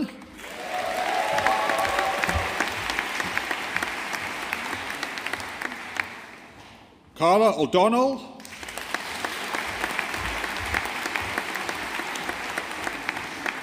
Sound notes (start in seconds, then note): 0.3 audience applauding; 8.4 audience applauding